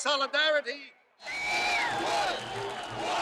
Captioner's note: crowd cheering